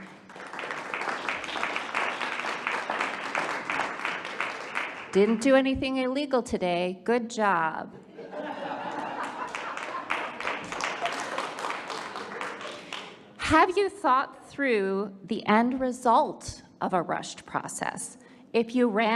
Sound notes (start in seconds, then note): 0.0 audience applauding; 8.2 audience laughs and applauds